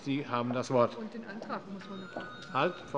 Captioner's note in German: Zuruf